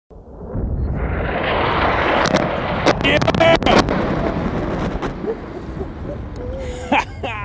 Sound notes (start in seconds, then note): 0.1 explosion booms